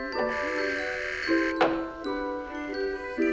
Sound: door bell buzzing

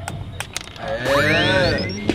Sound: hitting; cheering

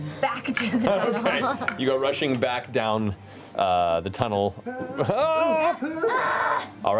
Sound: yelling

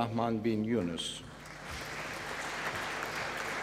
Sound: applause

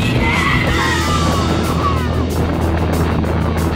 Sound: shouting; fast rock music

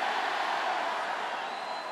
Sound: cheers

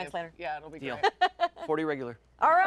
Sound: laughing

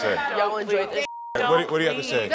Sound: beeping

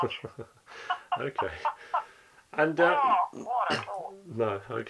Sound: laughing

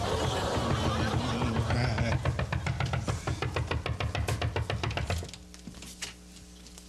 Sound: crazy knocking at the door

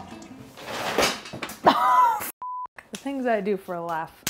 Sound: beep

